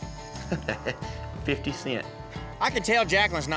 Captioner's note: chuckling